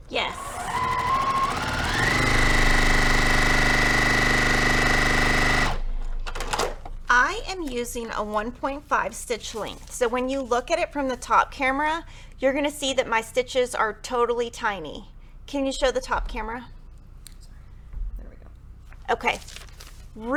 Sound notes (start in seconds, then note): 0.2 sewing machine rattling